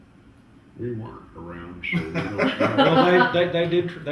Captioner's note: laughter